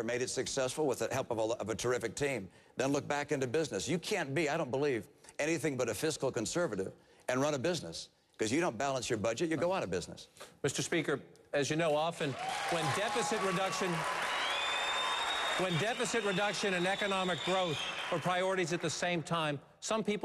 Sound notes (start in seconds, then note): 14.6 applause